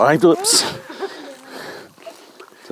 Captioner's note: laughter